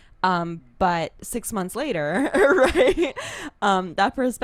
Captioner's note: laughs